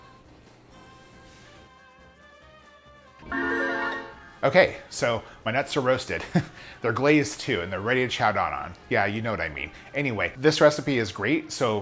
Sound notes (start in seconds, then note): 0.3 accordion music; 3.3 chiming; 6.1 laughs